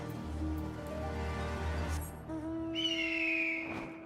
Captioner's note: whistles